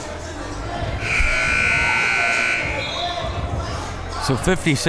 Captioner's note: buzzer blares